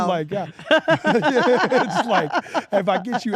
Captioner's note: laugh